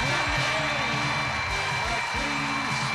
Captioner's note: cheers and applause